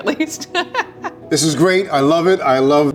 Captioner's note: laughing